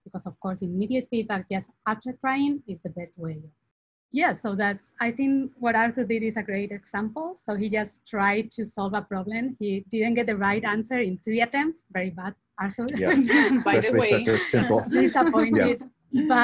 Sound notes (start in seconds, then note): 12.9 laughs